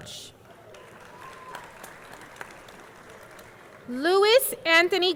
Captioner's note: audience clapping